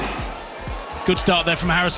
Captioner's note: starting pistol